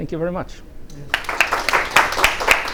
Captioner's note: applause